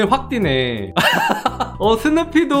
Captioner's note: laughing